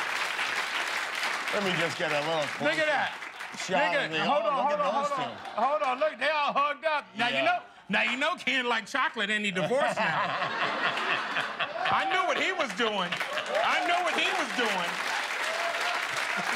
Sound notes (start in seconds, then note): 3.0 applause